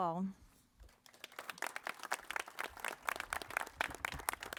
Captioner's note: crowd applauding